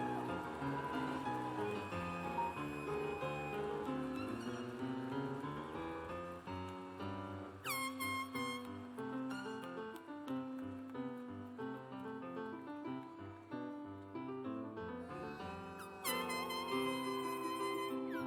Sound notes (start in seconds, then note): 2.8 cheers and applause